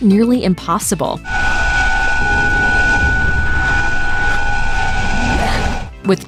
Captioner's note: high-pitched humming